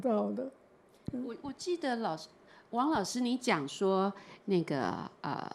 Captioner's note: Mandarin